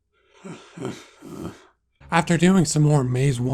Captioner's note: whines/cries